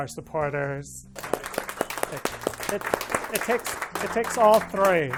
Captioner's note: group applauding